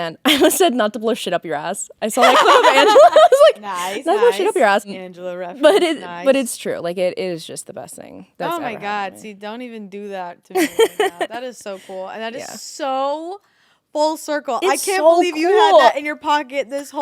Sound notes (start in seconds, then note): 2.2 both laughing; 10.6 Ashby laughing